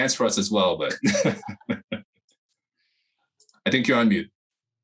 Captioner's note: chuckles